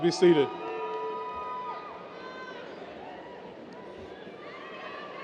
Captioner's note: audience cheers